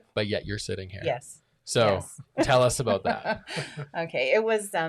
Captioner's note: laughs